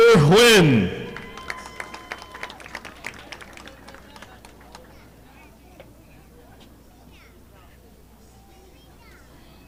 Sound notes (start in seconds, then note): 1.0 audience applauding